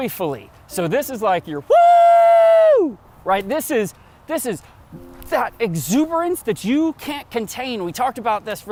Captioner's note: woooohoooo!!!!!